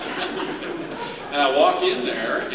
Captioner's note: laughter